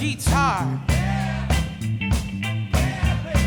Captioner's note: crowd